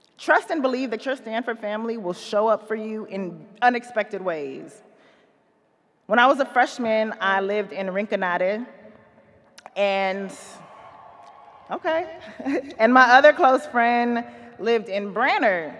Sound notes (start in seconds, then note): 10.6 audience cheers; 12.2 chuckles